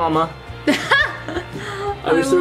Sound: laughs

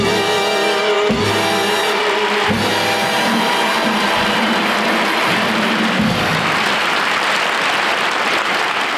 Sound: audience applauding

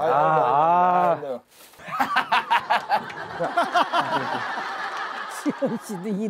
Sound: laughing

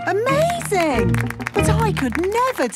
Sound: clapping

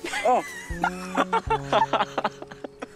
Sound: laughing

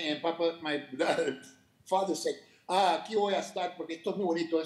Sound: speaking Spanish

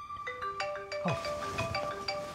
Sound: mobile rings

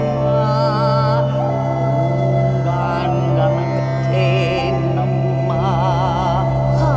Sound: in lower register

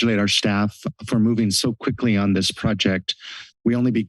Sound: laughs

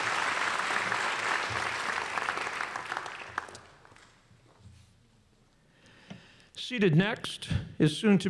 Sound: applause

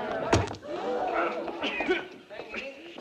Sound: patrons gasping; man coughing

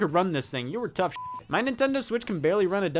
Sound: beep

